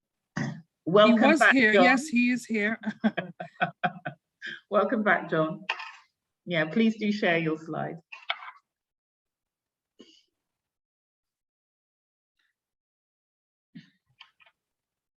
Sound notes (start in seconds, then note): 2.8 laughs